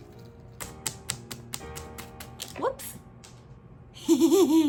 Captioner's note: clap clap clap clap; laughing